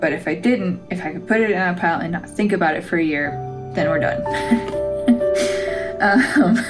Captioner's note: laugh